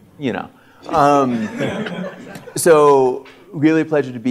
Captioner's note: audience laughter